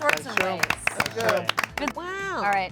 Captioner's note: cast claps